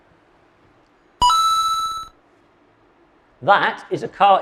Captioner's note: video game beeps